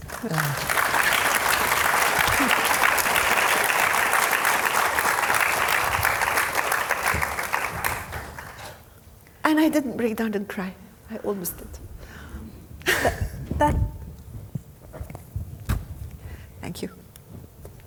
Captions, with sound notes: (audience applauding) And I didn't break down and cry. I almost did that. Thank you.